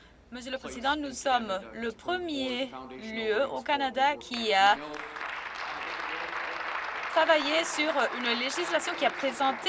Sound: some Applause

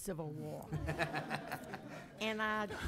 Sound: some laughing

